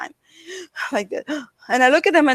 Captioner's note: breathes heavily